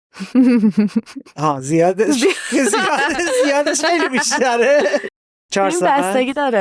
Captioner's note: laughs